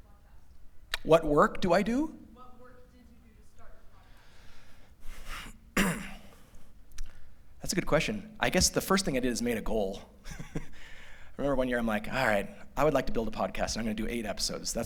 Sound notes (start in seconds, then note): 10.2 laughter